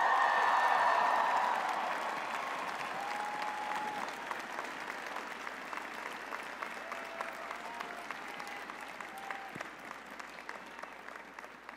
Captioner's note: cheers and applause